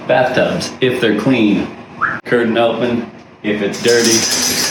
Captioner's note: whistles